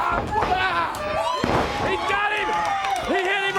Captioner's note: crowd chatter